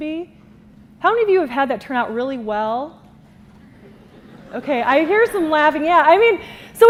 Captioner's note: laughter